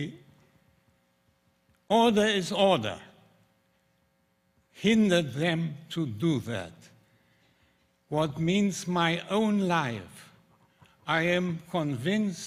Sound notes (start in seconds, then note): none